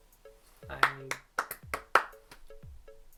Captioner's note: claps